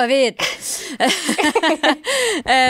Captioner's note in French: rires